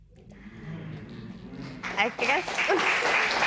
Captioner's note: spectators murmur; applause